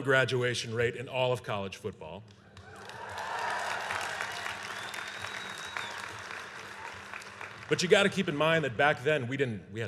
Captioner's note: applause